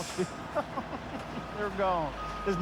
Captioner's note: chuckling